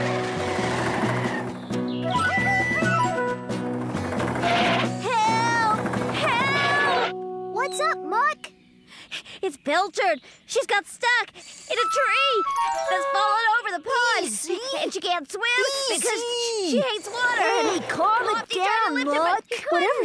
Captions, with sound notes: ( Tires Squealing ) TOOT, TOOT, TOOT! ( Tires Squealing ) HELP! HELP! WHAT'S UP, MUCK? ( Panting ) IT'S PILCHARD, SHE'S GOTTEN STUCK... IN A TREE THAT'S FALLEN OVER THE POND! EASY! EASY! AND SHE CAN'T SWIM, BECAUSE SHE HATES WATER... HEY, CALM IT DOWN, MUCK!